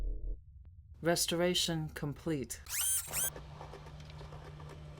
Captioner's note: computer Voice